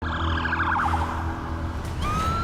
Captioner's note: sirens blaring; dramatic music playing